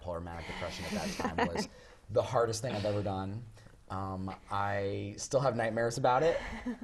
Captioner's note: laugh; laugh